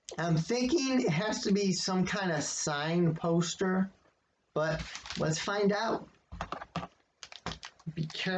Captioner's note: rustling of packaging tape followed by quick clinking sound